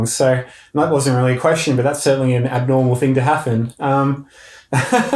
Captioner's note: laughing